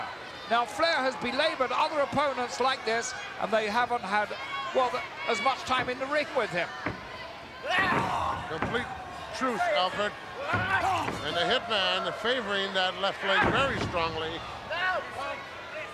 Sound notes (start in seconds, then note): none